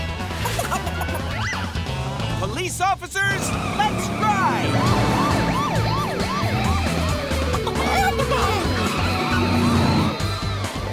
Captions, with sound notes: [cackling] Police officers, let's ride! [sirens wailing] [cackling]